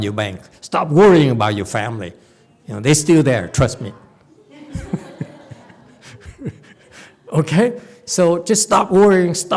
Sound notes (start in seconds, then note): 4.4 laughs